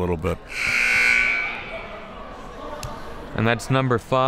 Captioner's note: buzzer